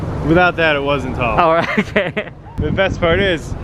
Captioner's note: laughter